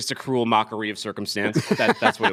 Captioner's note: laughter